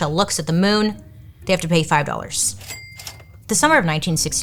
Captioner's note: cash register dings